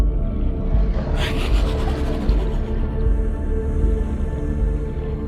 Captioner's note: creature growling